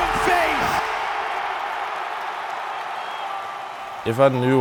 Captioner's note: crowd cheers